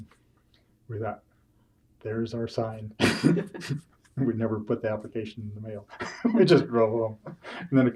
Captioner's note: laughs